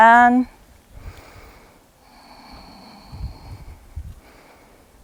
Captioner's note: deep breathing